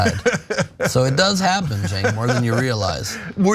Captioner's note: laugh